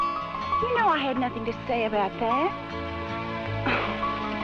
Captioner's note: sighs